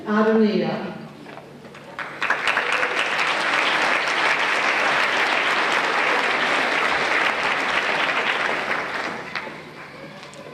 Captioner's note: applause